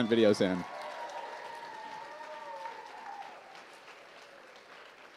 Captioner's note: applause